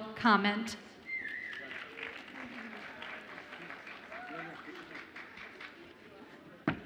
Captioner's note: audience applauds and cheers